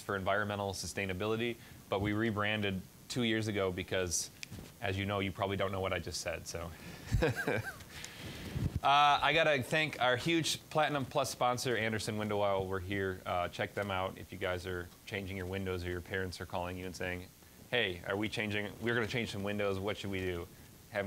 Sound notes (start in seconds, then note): 7.0 laughing